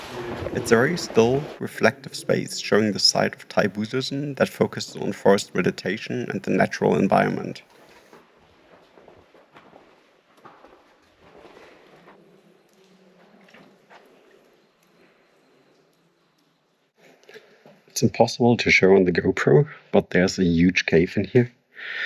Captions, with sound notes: It's a very still, reflective space showing the site of Tybussosen that focuses on forest meditation and the natural environment. [footsteps] It's impossible to show on the GoPro, but there's a huge cave in here.